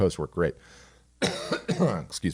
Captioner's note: coughs